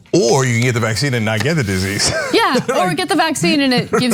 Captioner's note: laugh